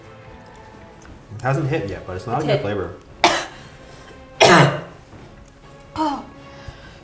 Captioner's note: coughs